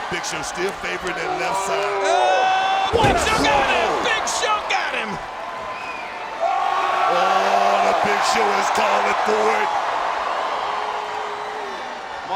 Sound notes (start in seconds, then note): 7.1 Big Show yells